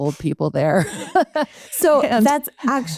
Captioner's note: laughing